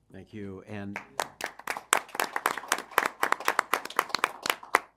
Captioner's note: applause